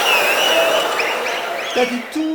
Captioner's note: wild applause and cheering for 22 seconds